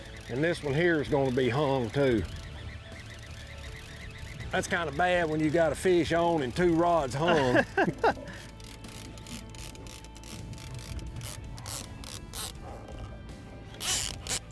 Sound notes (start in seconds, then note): 7.1 laughs; 9.1 reel clicks